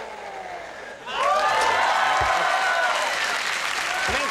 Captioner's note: cheering